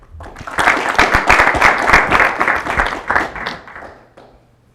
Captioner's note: applause